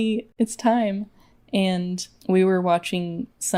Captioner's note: none